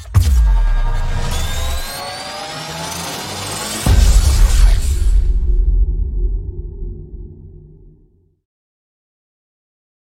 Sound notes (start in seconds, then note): 3.8 explosion booming